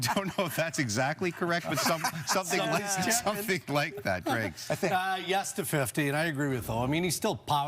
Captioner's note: laughter